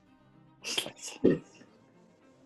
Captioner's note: whispers